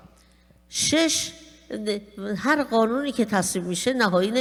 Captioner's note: speaking persian